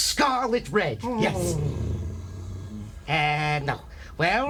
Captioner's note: Undertaker grunting